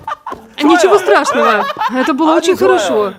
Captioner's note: смеётся над низким рекордом